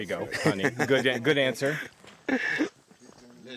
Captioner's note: laughs